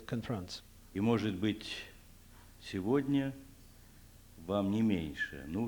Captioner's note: non-english speech